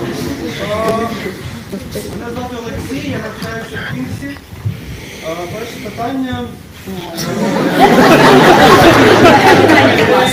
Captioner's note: laughter in the audience